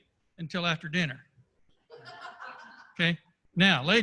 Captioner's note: laughter